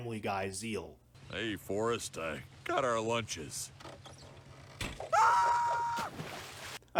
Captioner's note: screams